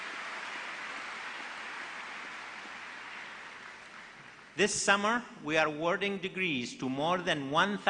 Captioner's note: applause